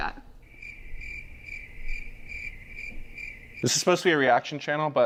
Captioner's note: crickets chirping